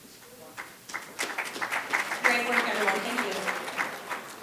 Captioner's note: audience clapping